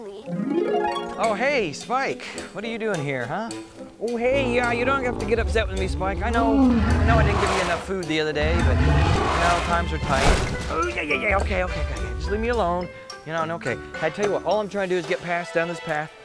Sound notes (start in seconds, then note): 0.3 harp strumming; 5.7 dinosaur grunting; 8.3 tail whooshing